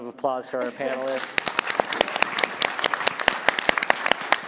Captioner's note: applause